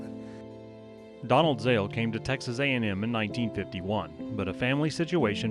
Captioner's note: voiceover